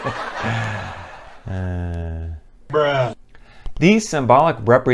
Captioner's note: laughter; sigh